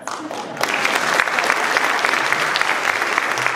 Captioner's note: applause